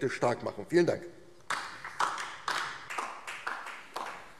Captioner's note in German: Beifall DIE LINKE